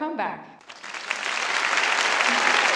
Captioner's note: applause